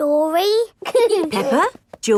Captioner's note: both giggling